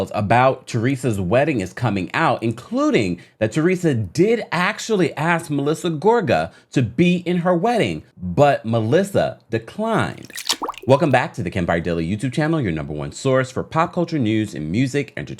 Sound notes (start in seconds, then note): 10.1 water splashing